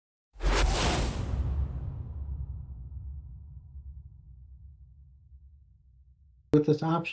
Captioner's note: whooshing sound